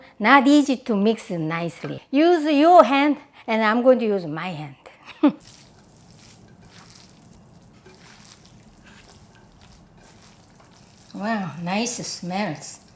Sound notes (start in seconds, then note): 6.0 chuckling